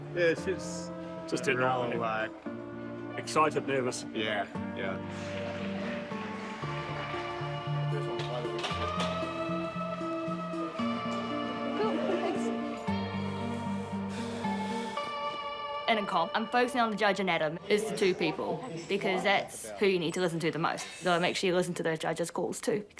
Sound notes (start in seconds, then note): 13.4 exhales deeply